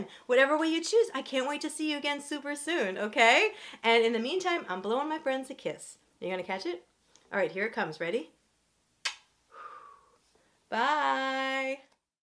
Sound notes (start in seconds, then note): 9.0 kiss sound; 9.5 air blows